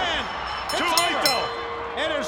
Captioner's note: bell ringing